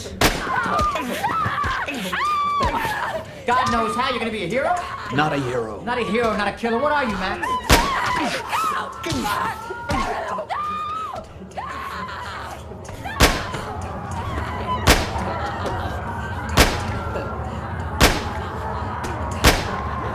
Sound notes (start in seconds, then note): 0.2 gunshot; 0.3 screaming; 4.6 screaming; 7.0 screaming; 7.6 gunshot; 7.6 punching sounds; 11.5 screaming; 13.2 gunshot; 13.6 screaming; 14.7 gunshot